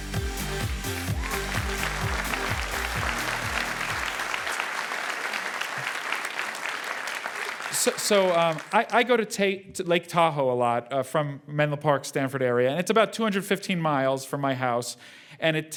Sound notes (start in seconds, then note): 0.1 applause